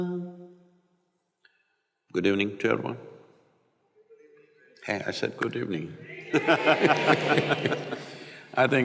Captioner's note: both laugh